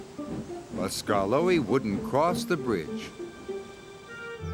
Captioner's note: whistles